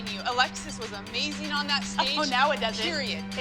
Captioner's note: laughs